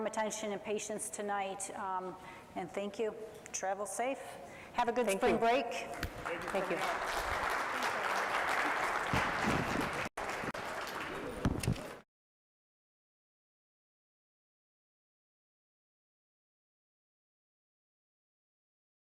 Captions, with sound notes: attention, and patience tonight, and thank you. Travel safe, have a good spring break, thank you. - Thank you very much. [audience applauds] - Thanks, everyone. [audience applauds] [overlapping chattering]